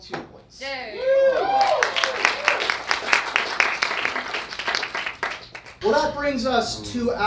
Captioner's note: audience cheering